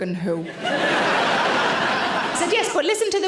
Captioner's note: audience laughter